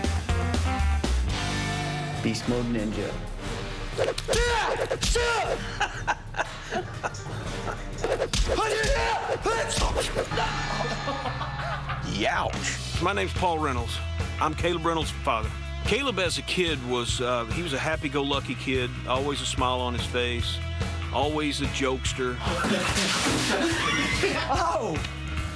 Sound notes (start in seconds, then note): 10.3 laughter